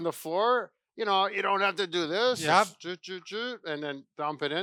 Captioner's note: makes mouth noises